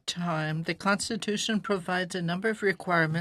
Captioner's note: speaking French